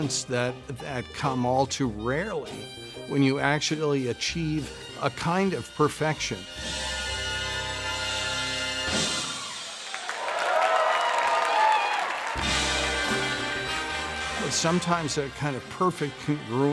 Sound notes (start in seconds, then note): 9.8 clapping